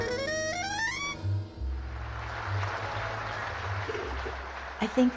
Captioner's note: audience applauding